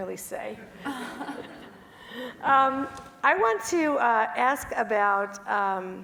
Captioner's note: laugh